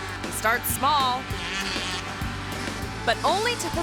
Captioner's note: engine revving